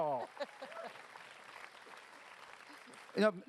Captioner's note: applause